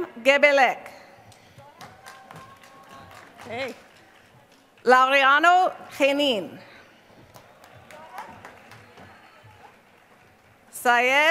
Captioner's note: applause